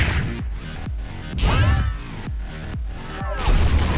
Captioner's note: screaming